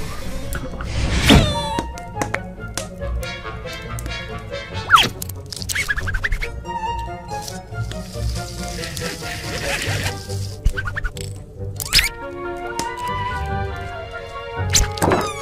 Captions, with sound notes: (squee!) (poof!) This little darling is Niffty. - Hi, I'm Niffty. It's nice to meet you. It's been a while since I've made new friends, heh-heh. Why are you all women? Are there any men here?! I'm sorry if that's rude. Oh, man, this place is filthy!